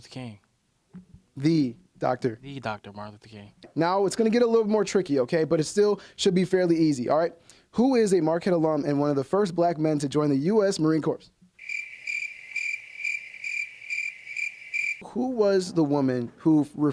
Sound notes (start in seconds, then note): 13.2 crickets